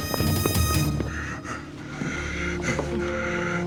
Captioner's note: gasping